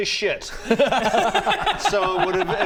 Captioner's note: laughs in agreement